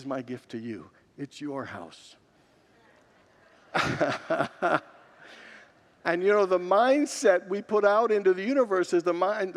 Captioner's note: congregation murmurs